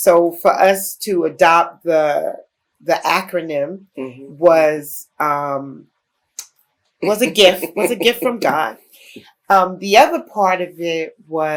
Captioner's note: laughter